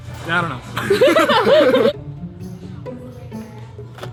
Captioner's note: laughter